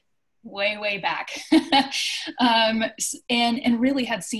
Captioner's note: laughs